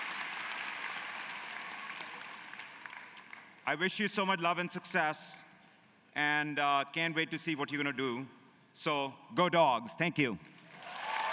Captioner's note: applause